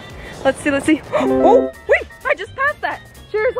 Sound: chimes

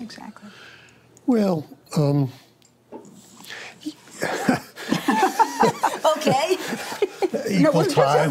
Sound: laughter

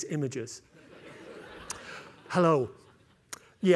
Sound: laughter

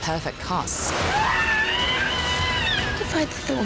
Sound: screaming

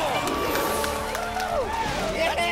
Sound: applause

